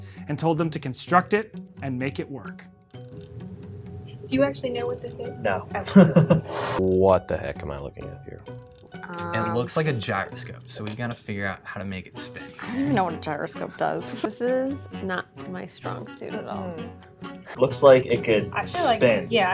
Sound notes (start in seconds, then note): 5.8 laughs